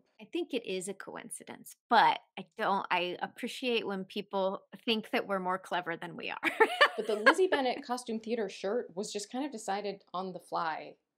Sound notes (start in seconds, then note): 6.4 laughter